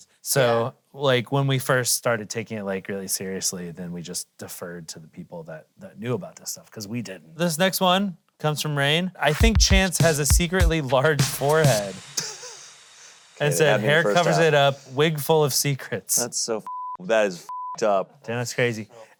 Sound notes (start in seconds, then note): 12.2 laughing